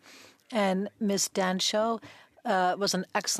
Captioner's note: speaking French